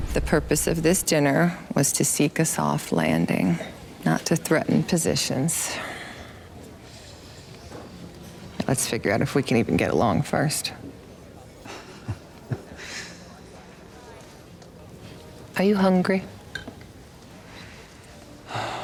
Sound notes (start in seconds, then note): 12.1 laughs